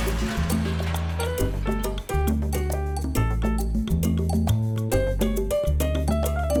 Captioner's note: cheerful music; glass clatters